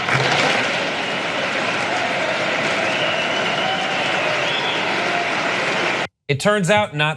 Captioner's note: cheers and applause